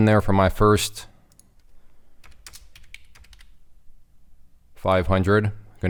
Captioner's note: keyboard clicking